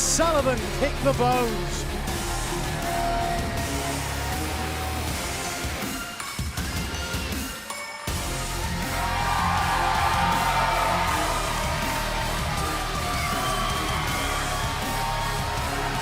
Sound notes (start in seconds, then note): 1.8 crowd cheering